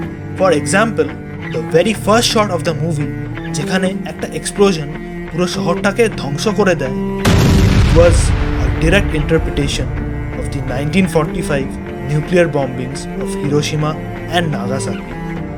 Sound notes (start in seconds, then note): 7.2 explosion sound